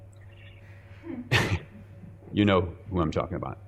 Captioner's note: chuckling